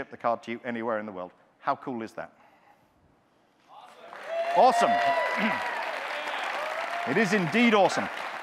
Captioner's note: audience cheers